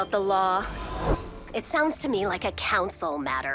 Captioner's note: magical buzzing